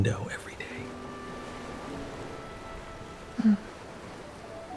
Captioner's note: ocean waves rolling in